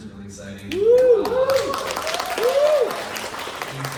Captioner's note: applause